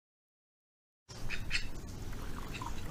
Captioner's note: quack quack